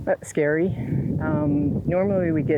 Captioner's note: wind blows